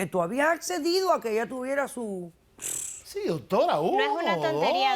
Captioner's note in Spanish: Sonido bucal explosivo